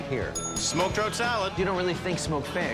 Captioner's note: bell dings